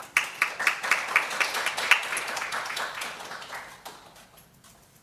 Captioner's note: audience applauds